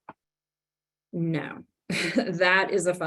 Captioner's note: laughs